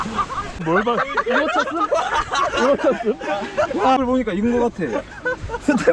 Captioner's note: laugh